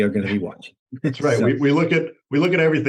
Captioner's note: laughs